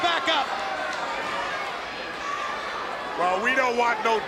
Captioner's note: crowd cheering